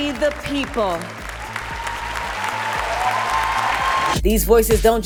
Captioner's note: cheering